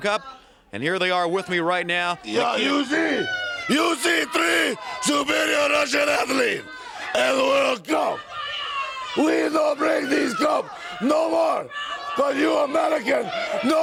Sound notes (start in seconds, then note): 10.5 crowd cheering